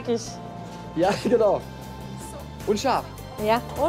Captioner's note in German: lachend